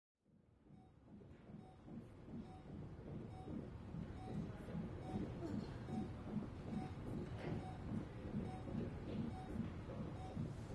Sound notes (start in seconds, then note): 0.6 heart monitor beeping